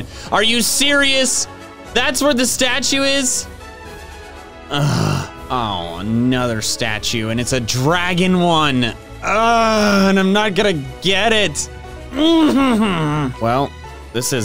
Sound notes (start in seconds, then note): 4.7 groans; 9.2 groans; 12.1 groans